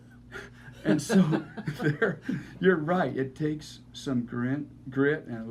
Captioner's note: laughing